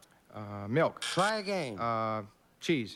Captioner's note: buzz buzz